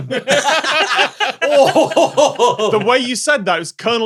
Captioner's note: group laughs heartily; hoots